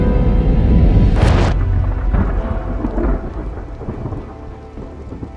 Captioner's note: thunder crashes